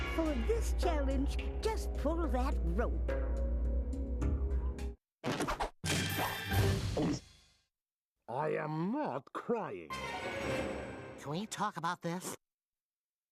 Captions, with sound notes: FOR THIS CHALLENGE, JUST PULL THAT ROPE. [gulping] I AM NOT CRYING. CAN WE TALK ABOUT THIS?